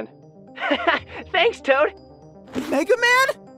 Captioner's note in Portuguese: risadas